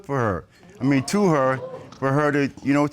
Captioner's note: audience exclaims